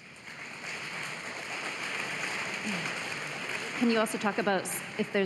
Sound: applause

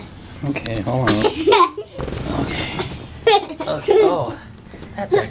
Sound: laughing

